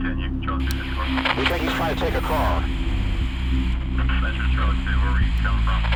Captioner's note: officer On Radio